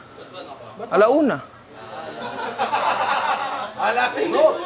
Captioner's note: laughter